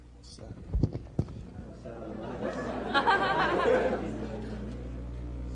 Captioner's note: laughter